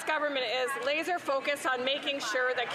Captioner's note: some Applause